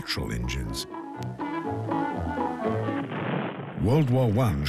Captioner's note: cheerful music; gunshots